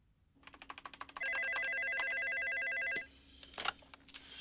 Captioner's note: phone ringing; keyboard clacking